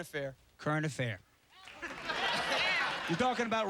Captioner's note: cheers and applause